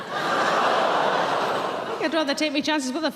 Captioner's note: audience gasps